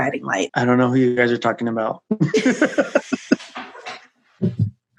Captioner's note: laughing